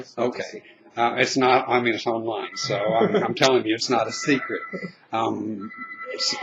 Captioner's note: laughing